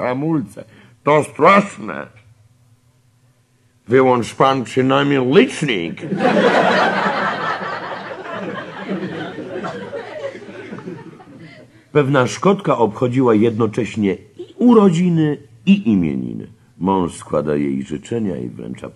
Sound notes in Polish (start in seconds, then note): 10.3 śmiech